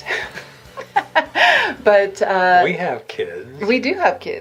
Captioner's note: light laughter